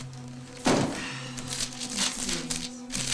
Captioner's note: Carmen sighs